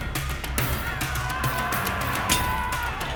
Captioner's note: tense instrumental; shouting